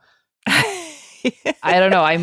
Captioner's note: laughing